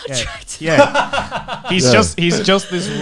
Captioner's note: laughs